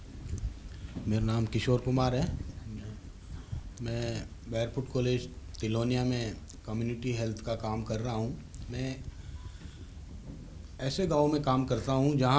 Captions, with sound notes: - I'm Kishore Kumar. (speaking in foreign language)